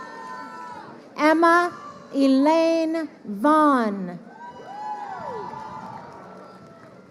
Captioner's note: crowd cheering